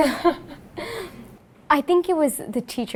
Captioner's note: laughs